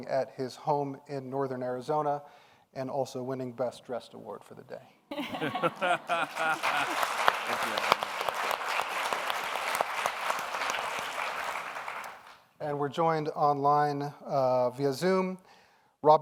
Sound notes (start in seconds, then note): 5.1 laughs; 8.4 audience applauds